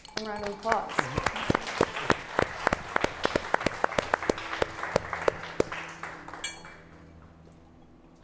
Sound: applause

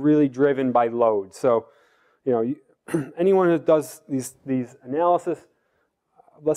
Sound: cough

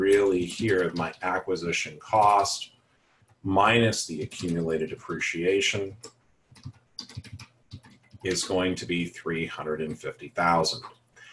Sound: typing

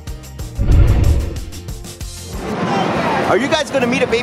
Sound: dinosaur growling

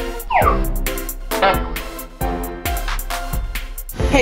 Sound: slide whistling and horn honking

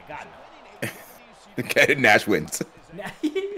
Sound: laugh

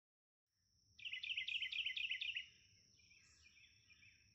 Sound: birds chirping

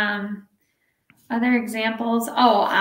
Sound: none

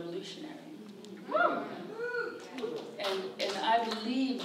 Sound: audience cheers

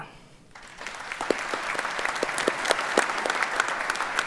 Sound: audience applauds

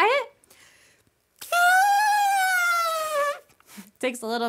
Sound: trumpets

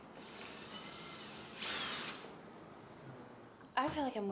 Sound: drill whirring

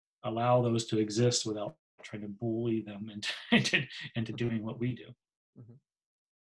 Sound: laughs

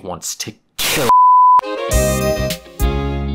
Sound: error beep

